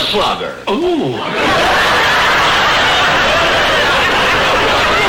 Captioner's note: audience laughter